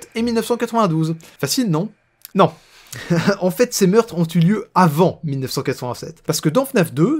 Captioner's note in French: Rire